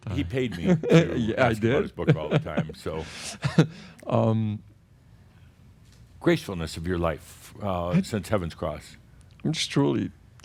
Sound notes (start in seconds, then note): 0.1 chuckling